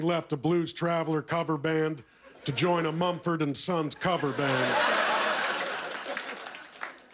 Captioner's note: laughter